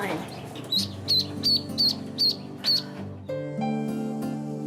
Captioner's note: duckling quacking